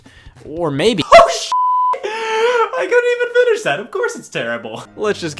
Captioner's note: beep